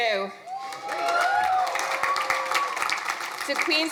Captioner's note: crowd cheering